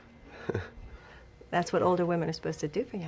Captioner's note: laugh